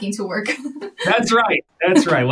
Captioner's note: laughs